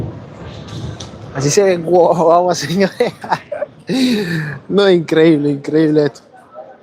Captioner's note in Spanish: risas